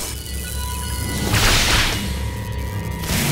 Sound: zap!; crackles and sparks

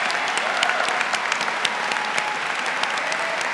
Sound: applause

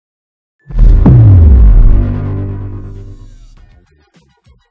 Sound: booming

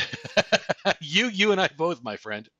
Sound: laughs

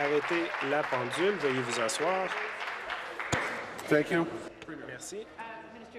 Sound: some Applause

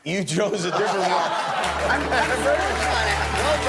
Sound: laughs

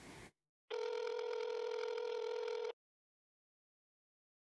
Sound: phone ringing

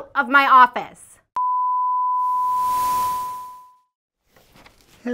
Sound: beeping noise

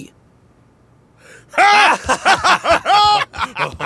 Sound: men laugh

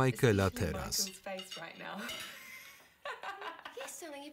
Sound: laugh loudly

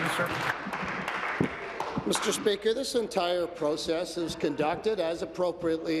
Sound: applause

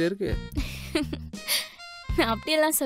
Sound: she laughs

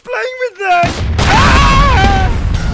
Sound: bang

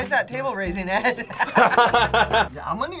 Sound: both laugh

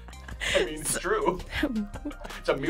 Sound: React laughs

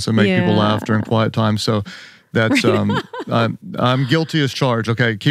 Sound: laughing

